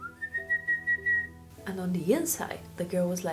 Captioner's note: whistling